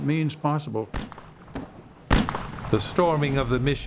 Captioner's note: gunshots